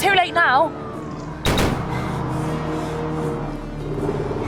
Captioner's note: guns firing